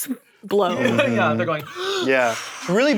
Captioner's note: blows